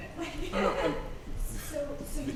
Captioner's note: chuckles